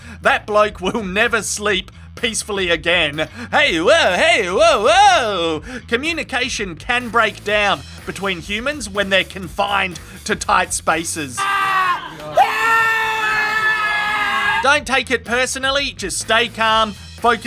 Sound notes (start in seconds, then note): 11.3 screaming